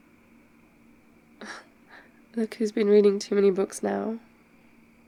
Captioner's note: laughs